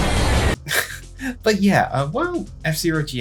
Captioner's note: chuckles